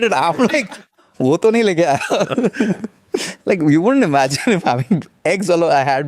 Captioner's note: laughs